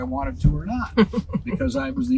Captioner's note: laughing